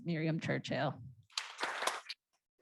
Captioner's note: applause